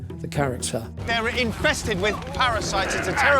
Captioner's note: all grunting